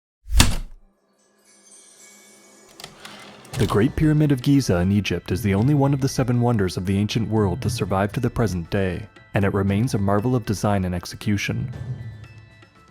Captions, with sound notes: [Typewriter keystroke then return slide] The Great Pyramid of Giza in Egypt is the only one of the seven wonders of the ancient world to survive to the present day, and it remains a marvel of design and execution.